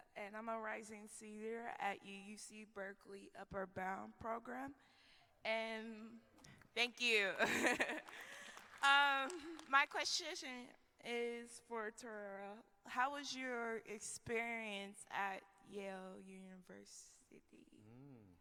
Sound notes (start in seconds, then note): 5.7 applause